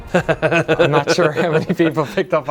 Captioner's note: laughing